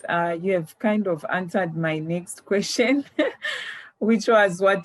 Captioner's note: laughs